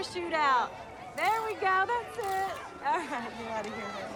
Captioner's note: camera shutter clicks